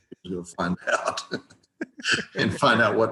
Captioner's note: chuckles